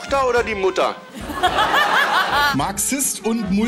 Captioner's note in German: lachen